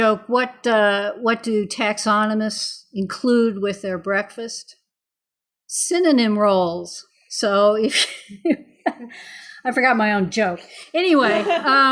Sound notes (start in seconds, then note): 8.0 laughing